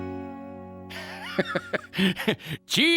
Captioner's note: laughing